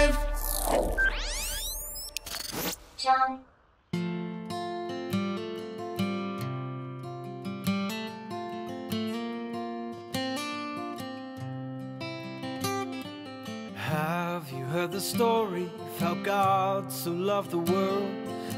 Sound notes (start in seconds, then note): 0.0 electronic beep; 0.0 electronic whoosh; 3.1 computer Voice; 4.1 soft guitar music